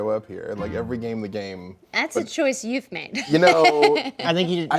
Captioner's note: laughs